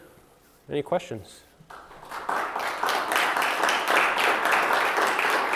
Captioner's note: audience applause